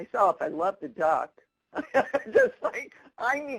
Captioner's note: laughing